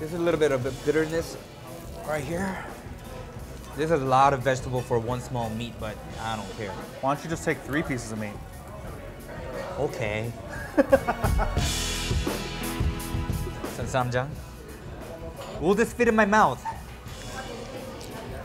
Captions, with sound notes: There's a little bit of a bitterness right here. This is a lot of vegetable for one small meat, but I don't care. Why don't you just take three pieces of meat? Okay. (laughing) (upbeat music) Add some ssamjang. Will this fit in my mouth?